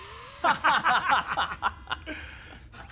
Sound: laughing

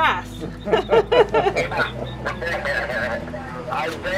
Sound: laughter

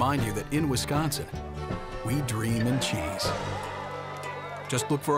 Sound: crowd cheering

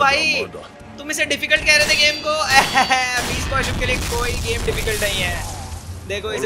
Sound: proud laugh

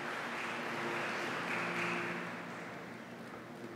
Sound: applause

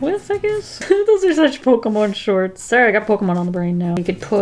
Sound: laughs

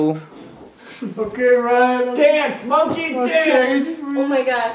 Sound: sobbing

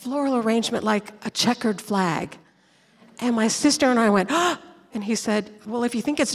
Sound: gasp!

